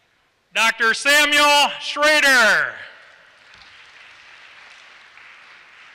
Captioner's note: applause